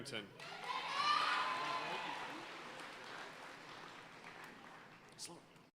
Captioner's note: audience cheering and applauding